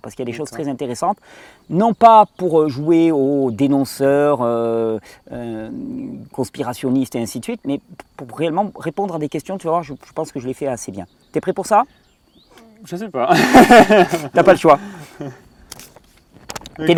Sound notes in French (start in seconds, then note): 13.3 rires; 16.3 rires